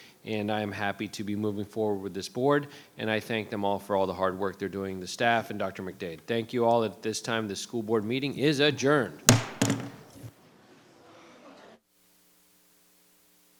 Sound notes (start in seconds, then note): 9.2 gavel thudding; 10.4 people chattering